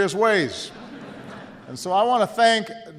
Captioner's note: laughter